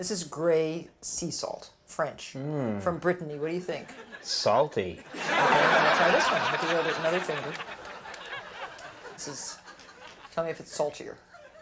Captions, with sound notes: This is grey sea salt, French from Brittany. What do you think? Salty. (audience laughing) nd this one. Lick another finger. Tell me if it's saltier.